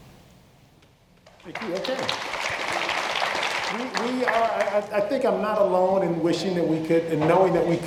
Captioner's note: applause